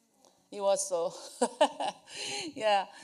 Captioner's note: laughs